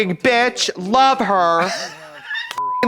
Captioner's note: Katya crinkles